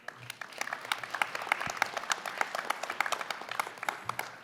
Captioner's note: applause